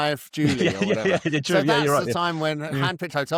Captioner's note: laughs